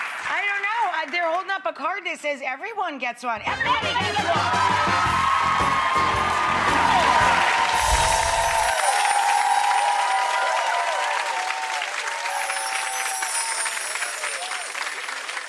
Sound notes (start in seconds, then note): 5.5 audience cheers; 7.6 bells chime